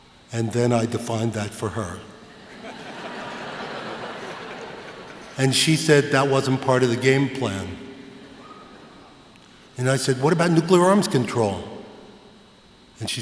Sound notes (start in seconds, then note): 2.3 laughter